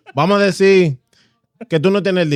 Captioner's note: speaking In Foreign Language